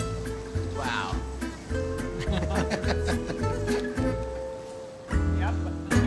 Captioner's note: laughter; chuckles